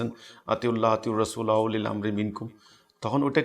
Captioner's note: Arabic